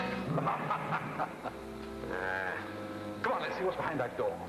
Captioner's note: Kovak laughs